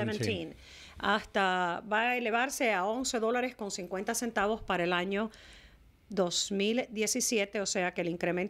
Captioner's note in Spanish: Hablando ingl\s